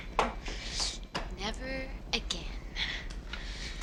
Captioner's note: none